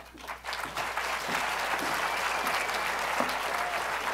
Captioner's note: applause